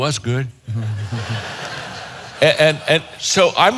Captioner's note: audience chuckling